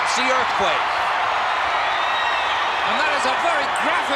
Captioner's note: crowd cheering